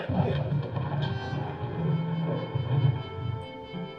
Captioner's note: thunder rumbling